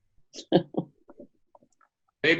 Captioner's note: laughs